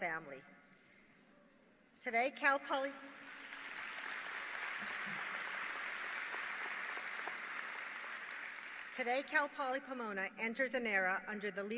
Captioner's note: applause